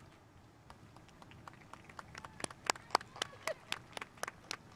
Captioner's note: spectators applauding